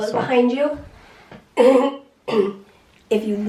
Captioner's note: clears throat